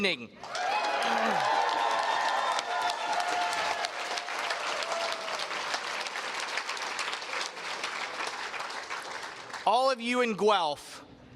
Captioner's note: cheers and Applause